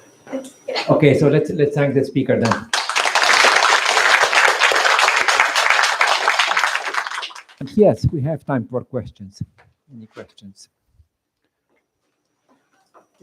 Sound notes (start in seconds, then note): 2.4 applause